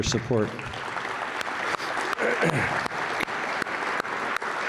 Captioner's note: audience applauds